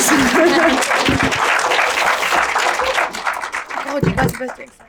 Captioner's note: audience clapping